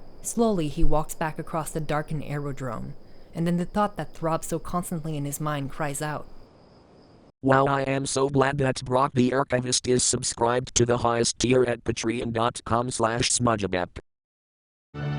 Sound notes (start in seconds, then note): 7.4 text to speech